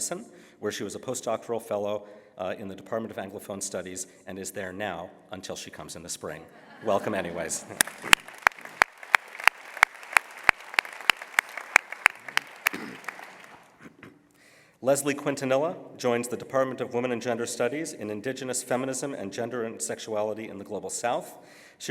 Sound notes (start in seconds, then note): 6.4 laughter; 7.6 applause